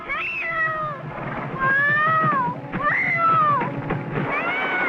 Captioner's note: screams